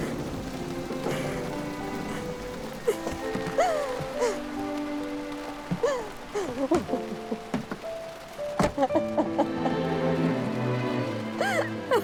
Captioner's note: thunder rumbles loudly; crying